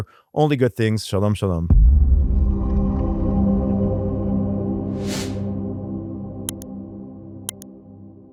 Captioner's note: whooshing